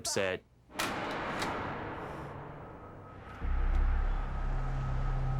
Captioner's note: slams